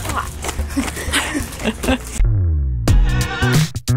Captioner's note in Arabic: كلاهما ضحكا; موسيقى مبهجة